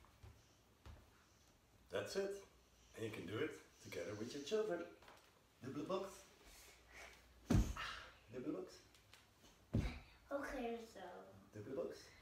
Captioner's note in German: Dutch Kinder sprechen